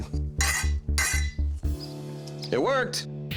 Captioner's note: clanging